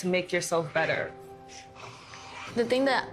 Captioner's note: exhaling sharply